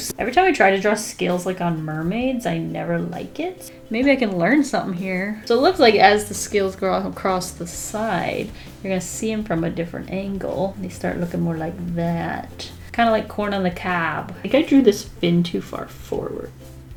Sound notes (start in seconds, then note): none